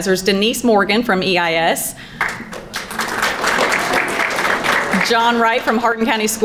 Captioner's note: crowd applauding